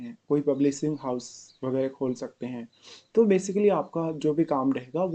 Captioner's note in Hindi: नाक से की जाने वाली आवाज़; नाक से की जाने वाली आवाज़